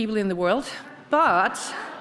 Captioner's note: audience chuckles